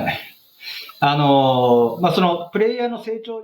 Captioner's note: speaking japanese